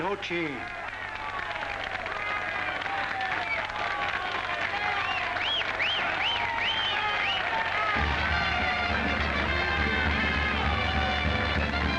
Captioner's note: crowd cheering & applauding